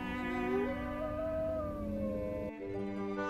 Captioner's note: wolves growl in the distance